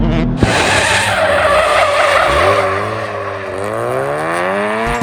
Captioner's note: tires squealing; engine revs